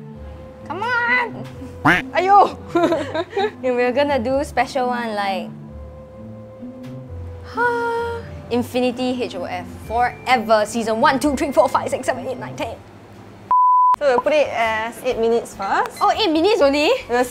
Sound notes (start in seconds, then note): 2.7 nervous laughter; 7.5 exclaims